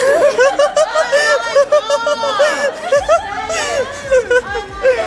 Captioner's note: laughing